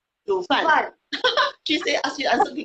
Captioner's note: speaking foreign language